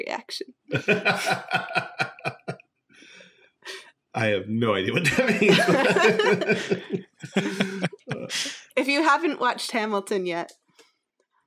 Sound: laughing

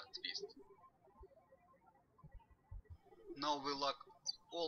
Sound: birds chirping

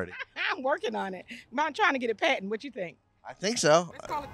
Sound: laughs

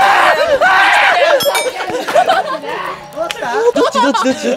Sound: heard a woman's cry

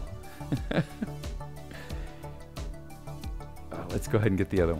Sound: chuckles

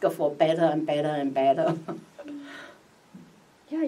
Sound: chuckles

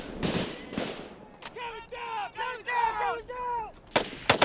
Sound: shouting; guns firing

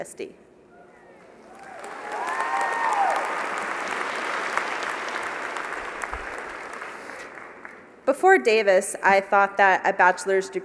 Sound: applause

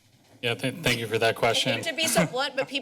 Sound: laughter

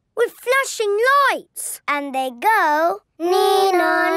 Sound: imitating siren

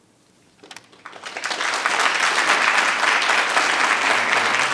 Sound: audience applauding

